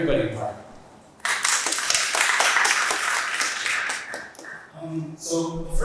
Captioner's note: audience applauds